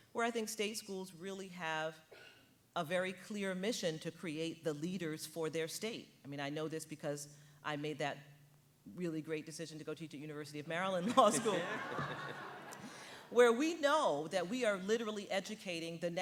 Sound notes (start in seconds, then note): 11.1 audience laughing